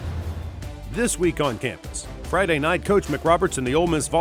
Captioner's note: voiceover